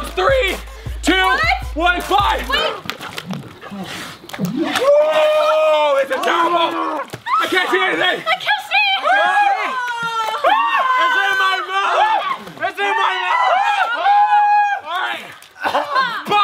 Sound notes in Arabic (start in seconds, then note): 4.7 يصرخ; 10.2 كل يصيح; 14.2 كل يصرخ